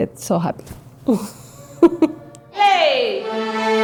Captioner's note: laughs